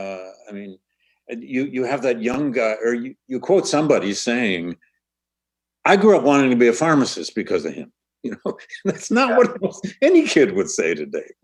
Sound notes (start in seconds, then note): 8.2 laughs